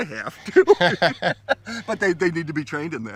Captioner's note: laughing